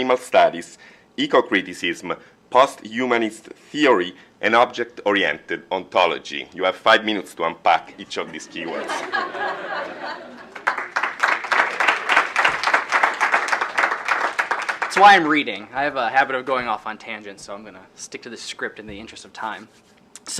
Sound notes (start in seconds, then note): 8.3 laughter; 10.4 applause